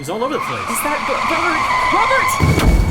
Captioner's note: tires screech; car thumps